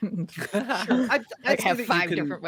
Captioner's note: Cornette laughs